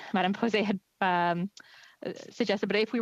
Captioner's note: speaking French